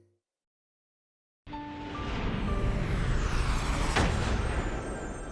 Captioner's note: dramatic sound